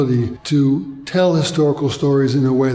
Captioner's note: people chattering